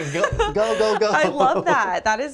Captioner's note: laughs